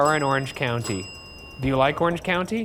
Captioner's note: bell dinging